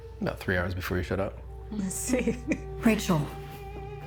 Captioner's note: laughs